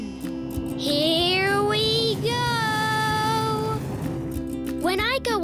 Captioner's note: rocket engines roaring